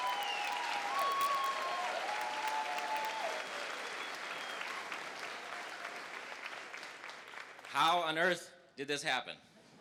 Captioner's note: applause